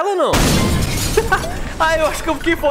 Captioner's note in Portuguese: Risos